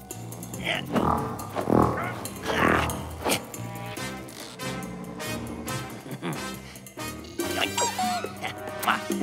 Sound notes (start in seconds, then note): 0.1 grunts; 4.7 snickers; 7.5 squeaks